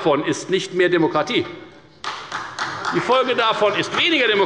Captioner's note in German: Beifall bei der FDP und bei Abgeordneten der SPD